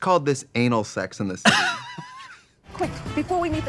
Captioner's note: Katya laughs